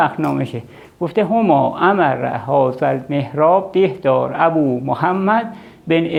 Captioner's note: in Arabic